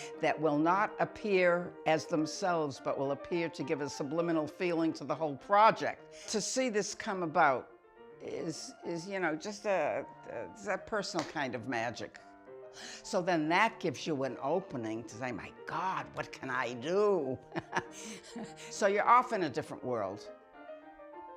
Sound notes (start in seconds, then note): 17.5 laughs